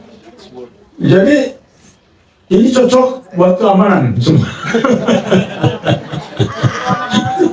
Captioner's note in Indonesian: tertawa